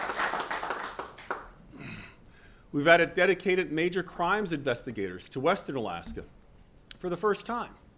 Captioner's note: applause